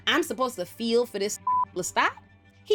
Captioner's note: beep